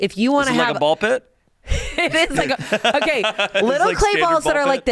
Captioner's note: laughs